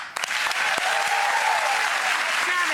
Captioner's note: audience claps